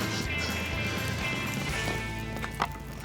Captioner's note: ripping, fire crackling